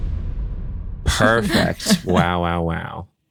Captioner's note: laughs